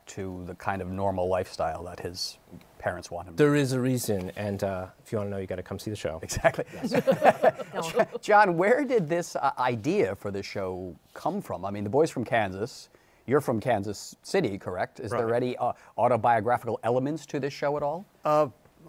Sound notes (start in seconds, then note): 6.3 laughter